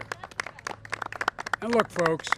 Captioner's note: applause